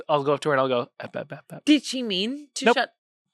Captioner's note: mimics stuttering